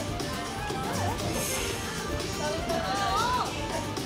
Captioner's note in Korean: 스윽